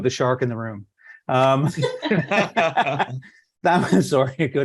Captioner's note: laughter